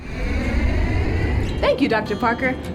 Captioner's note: airplane soaring